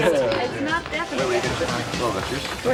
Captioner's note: chattering